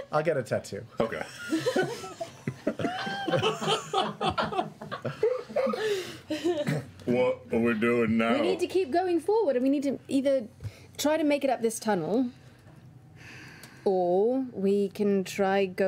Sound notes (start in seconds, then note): 1.2 laughter